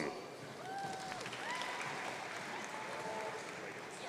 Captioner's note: audience cheering